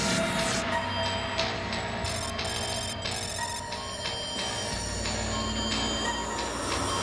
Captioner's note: alarm